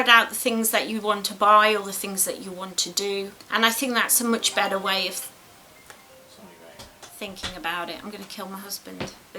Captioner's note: hubby's phone rings